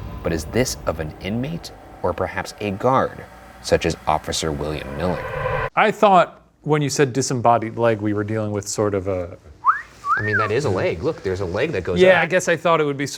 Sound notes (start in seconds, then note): 0.0 tense music; 9.6 whistles suggestively